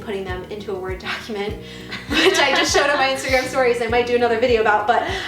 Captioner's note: laughing